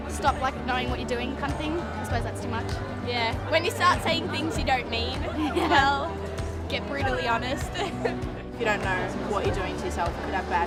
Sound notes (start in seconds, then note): 5.2 chuckling